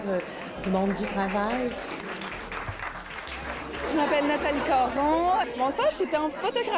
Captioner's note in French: applaudissements